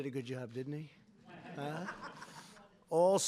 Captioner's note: laughter